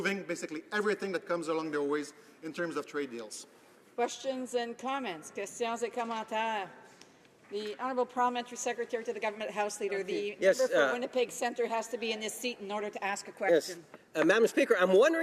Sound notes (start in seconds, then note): 9.6 speaking French